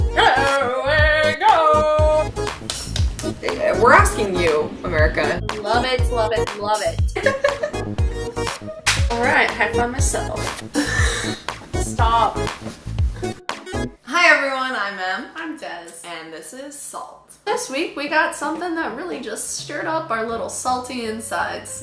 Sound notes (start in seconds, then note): 7.2 laughs